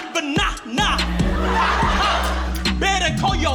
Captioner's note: laughter